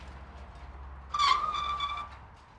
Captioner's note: squeaking